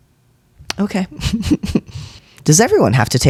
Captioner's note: laugh